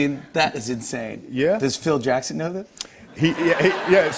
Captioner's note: laughter